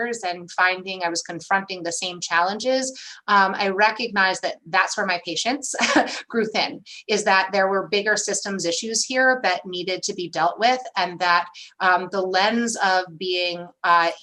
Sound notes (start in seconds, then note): 5.8 laughter